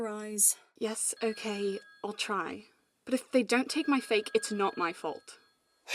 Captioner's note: phone ringing